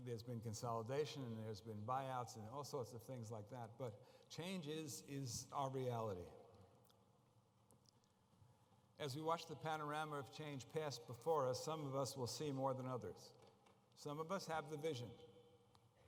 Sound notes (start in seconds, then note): none